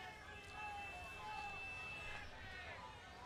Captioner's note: crowd chatter